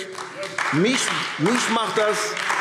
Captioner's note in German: Beifall AfD